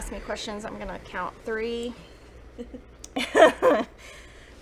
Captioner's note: laughs